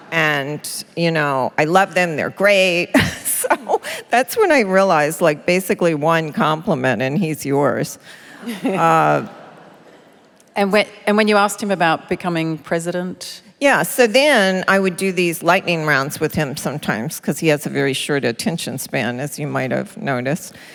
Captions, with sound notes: [Laughter] And, you know, "I love them, they're great." So that's when I realised like basically one compliment, and he's yours. [Laughter] >> And when, and when you asked him about becoming president? >> Yeah, so then I would do these lightning rounds with him sometimes because he has a very short attention span, as you might have noticed.